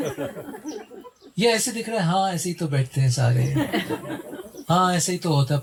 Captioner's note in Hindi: हंसी; हंसी